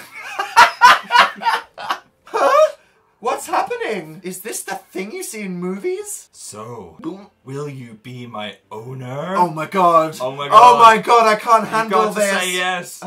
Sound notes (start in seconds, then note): 0.0 Dan laughs; 6.8 gulp